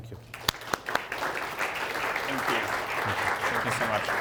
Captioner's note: audience clapping